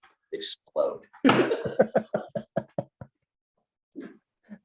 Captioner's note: both laughing